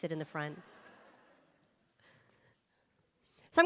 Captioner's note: audience laughs